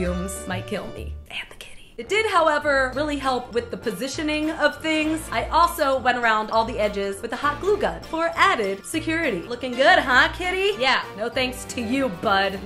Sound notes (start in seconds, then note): 1.1 whispers